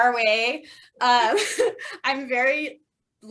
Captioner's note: laughter